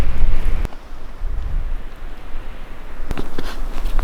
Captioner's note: wind blowing